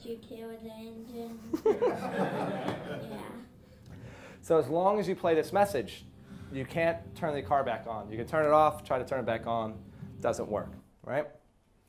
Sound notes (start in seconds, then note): 1.6 class laughing